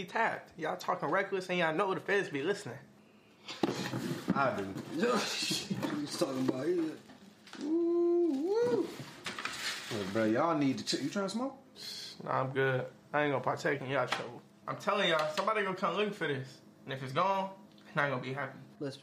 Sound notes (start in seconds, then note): 3.6 box rustles; 5.1 Jay laughs